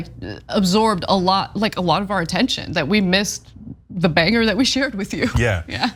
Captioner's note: laugh